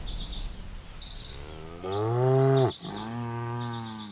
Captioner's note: birdsong; cattle bellow